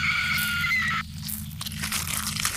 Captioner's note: scream